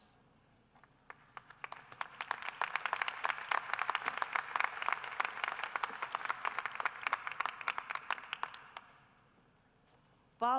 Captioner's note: applause